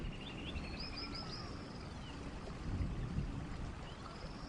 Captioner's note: birds chirping